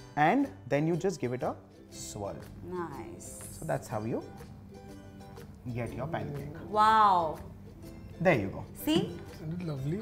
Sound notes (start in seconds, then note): none